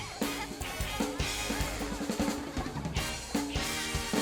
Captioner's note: laughing